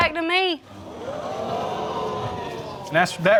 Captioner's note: audience gasping